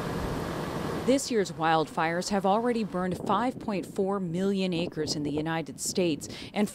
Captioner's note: voice-over